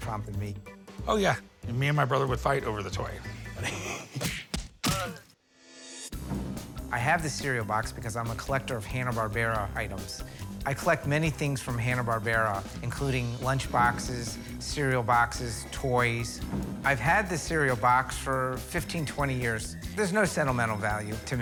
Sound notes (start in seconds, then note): 3.3 wallops and grunts; 3.3 chuckles